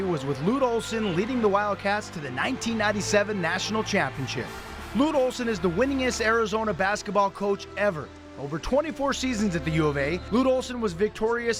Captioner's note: nat up, celebration